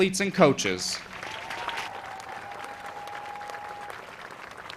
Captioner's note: audience applauds